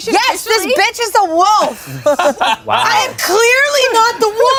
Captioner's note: everyone laughs